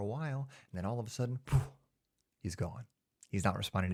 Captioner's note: poof